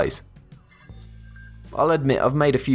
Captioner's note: futuristic ringing